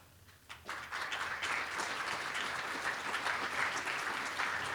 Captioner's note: applause